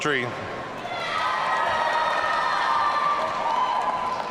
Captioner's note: audience cheering